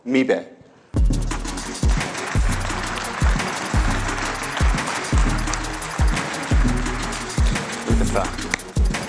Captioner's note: applause